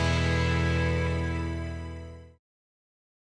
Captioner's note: applause